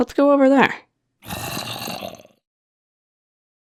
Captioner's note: zombie growls in agreement